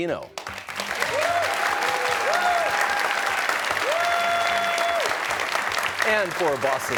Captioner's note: cheers and applause